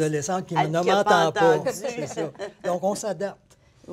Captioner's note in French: rires